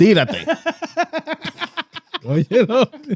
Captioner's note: speaking Foreign Language